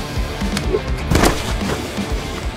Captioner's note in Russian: стук